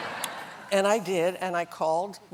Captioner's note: laughter